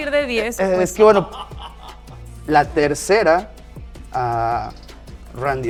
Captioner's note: laugh